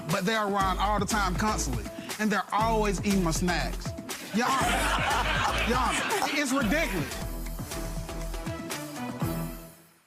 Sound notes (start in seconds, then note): 4.3 audience laughs; 7.7 dramatic music